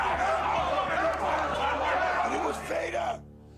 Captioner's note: crowd chatter